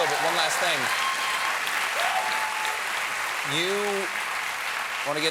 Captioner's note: cheers and applause